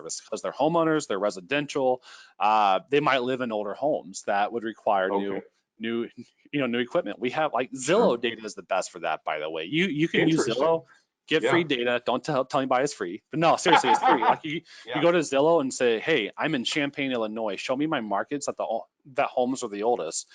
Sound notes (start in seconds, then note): 13.4 laughing